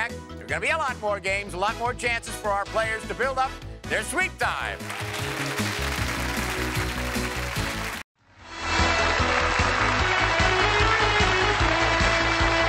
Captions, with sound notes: there are going to be a lot more games. A lot more chances for our players to build up their sweep time. (cheers and applause)